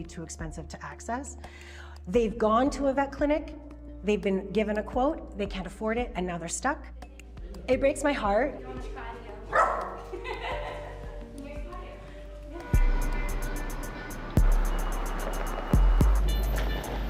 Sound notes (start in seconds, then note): 9.5 dog barks; 14.8 upbeat music